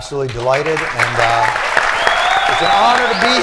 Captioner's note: cheering, whistling